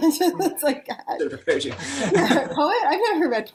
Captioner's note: laughs